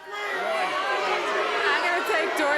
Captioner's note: crowd clamoring